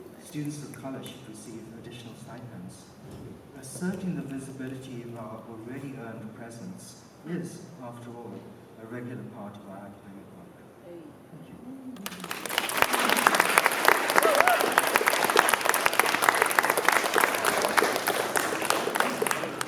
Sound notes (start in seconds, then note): 11.8 applause